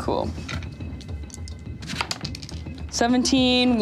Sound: dice clattering

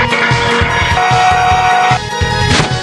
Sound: yells

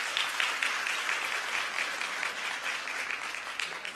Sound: applause

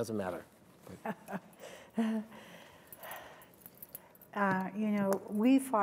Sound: laughs

